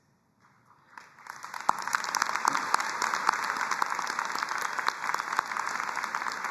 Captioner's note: both applauding